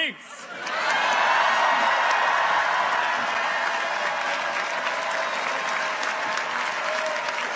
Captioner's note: audience applauds; audience cheers